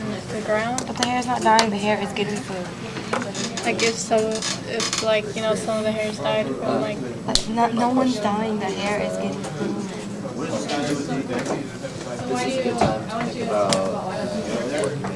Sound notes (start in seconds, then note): 12.3 chatter